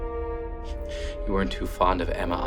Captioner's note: Arthur snickers